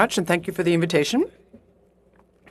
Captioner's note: speaking in French